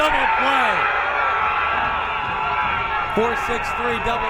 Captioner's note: crowd cheering